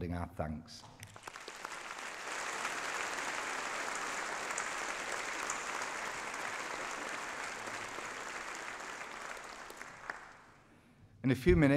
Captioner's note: applause